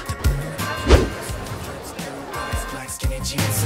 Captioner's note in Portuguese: Sinos tocando